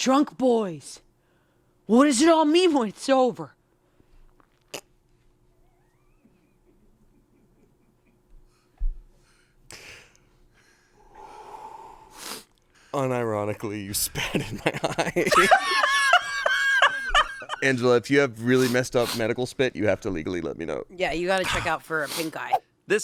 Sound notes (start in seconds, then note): 4.8 chuckles; 10.6 exhales; 15.8 laughs